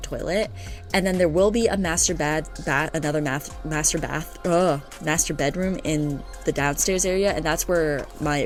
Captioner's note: stutter